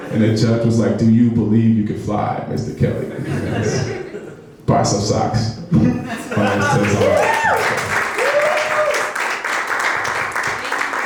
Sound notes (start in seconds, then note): 3.1 laughing; 5.9 laughing; 6.4 audience cheering